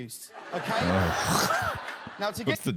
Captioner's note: groans